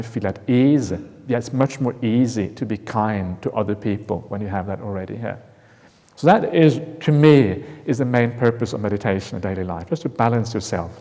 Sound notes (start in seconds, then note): none